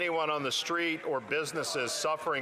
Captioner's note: some Applause